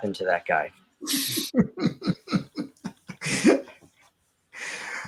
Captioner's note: laughs